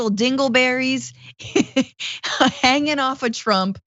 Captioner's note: laugh